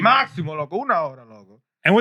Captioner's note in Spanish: Hablando en idioma extranjero